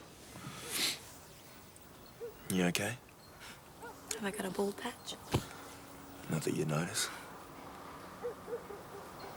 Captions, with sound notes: (John sniffs) - You okay? - Have I got a bald patch? - Not that you'd notice.